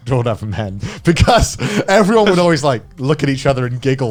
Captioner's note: speaking foreign language